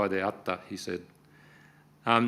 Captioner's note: speaking Japanese